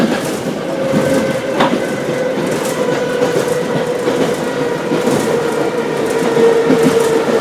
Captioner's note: braking - arrival at the station